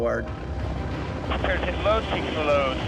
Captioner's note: man On Radio